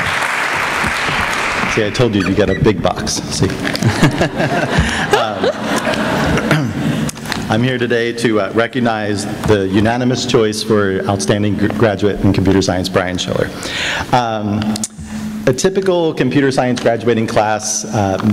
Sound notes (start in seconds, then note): 0.0 applause; 3.7 laughter